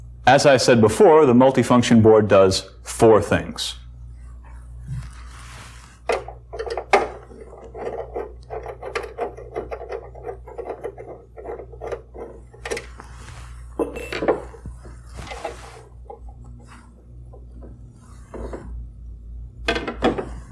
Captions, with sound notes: As I said before, the multifunction board does four things. (metal scraping) (clunk)